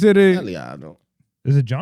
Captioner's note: non-english Speech